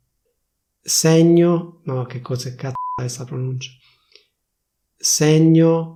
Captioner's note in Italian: beep